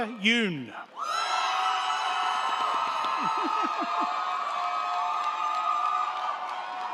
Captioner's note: crowd cheering; crowd clapping